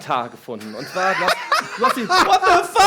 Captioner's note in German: Die lachen